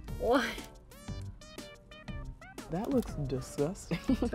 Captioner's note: laughter